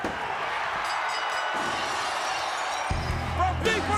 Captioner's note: hand pounding; bell dinging